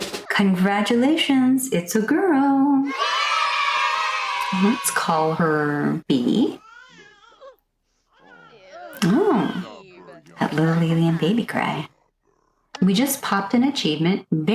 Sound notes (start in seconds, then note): 2.8 children's cheer sfx; 8.1 alien baby cry